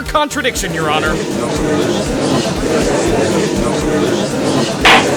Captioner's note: gallery chattering